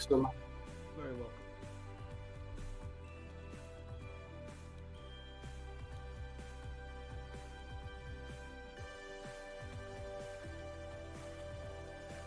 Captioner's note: various voices departing